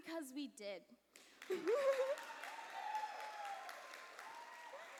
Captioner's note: cheers and applause